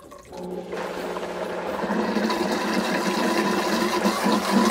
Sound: blender whirring

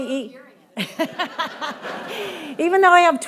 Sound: audience laughing

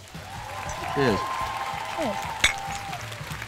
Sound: clink

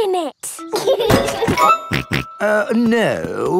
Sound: laughs and snorts

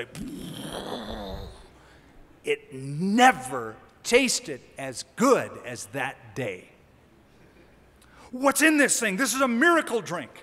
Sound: making explosion sound

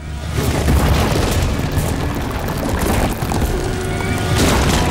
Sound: suspenseful music; ground rumbles

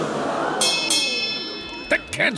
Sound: crowd gasps; bell rings

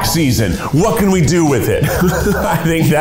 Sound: laughing

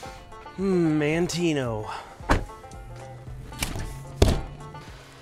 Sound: sighs

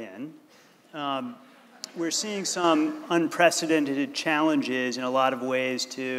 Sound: laughter

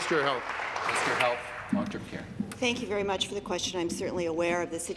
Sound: applause

